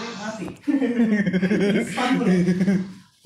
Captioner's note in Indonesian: Giggles